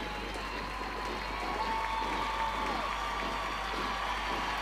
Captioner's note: crowd cheering